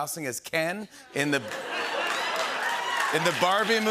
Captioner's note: cheering and applause